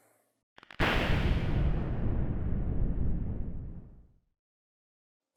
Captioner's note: lightning crackling